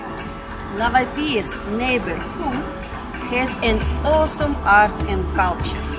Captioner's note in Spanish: Ruido callejero